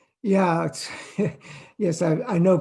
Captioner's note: chuckles